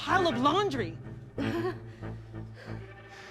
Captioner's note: laughs